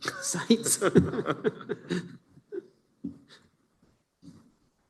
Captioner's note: laughter